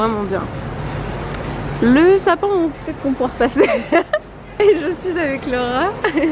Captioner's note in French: rires